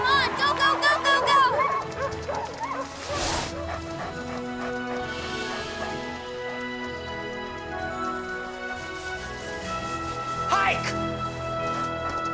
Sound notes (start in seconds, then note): 3.5 Buck panting; 3.5 epic music